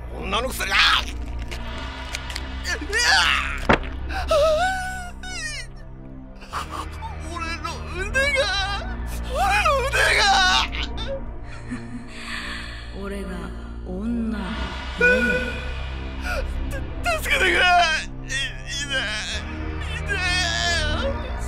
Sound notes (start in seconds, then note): 7.4 whimper